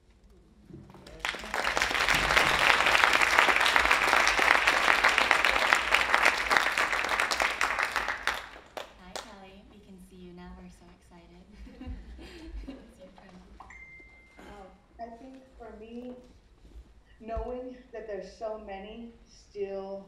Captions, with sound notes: (audience applauding) - Hi Kelly. We can see you now. We're so excited. - I think for me, knowing that there's so many still stuck,